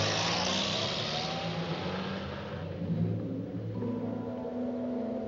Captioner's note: car Departing